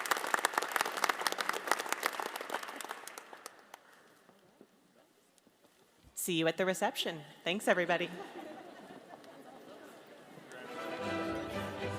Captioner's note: applause